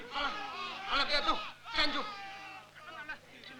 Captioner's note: Malay spoken audio